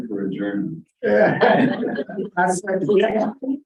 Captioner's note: laughter